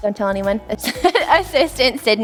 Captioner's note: laughs